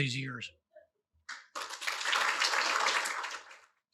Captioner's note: applause